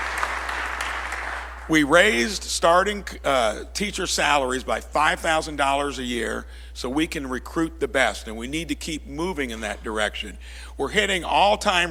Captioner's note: applause